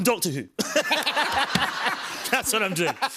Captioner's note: laughter